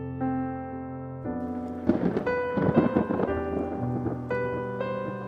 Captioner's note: thunder cracks